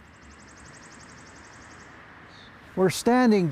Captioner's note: birds tweeting